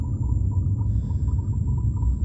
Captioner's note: high pitched whirring